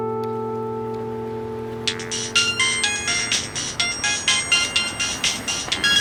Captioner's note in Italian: squillo cellulare